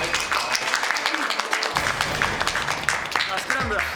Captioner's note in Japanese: 拍手